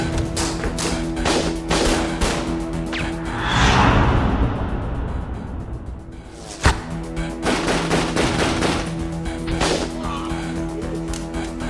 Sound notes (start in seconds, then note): 2.0 gunshots; 7.4 multiple gunshots